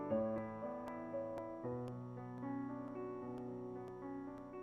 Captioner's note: none